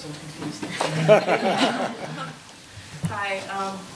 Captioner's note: laughing